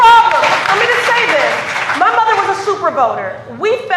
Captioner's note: cheers and applause